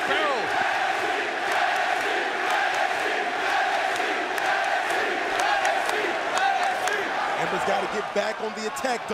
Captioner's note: crowd cheering